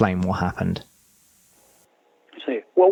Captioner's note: cheers and applause